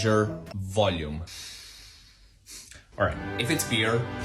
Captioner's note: deep breath